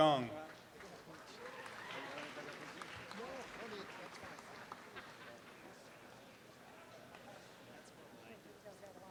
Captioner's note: audience applause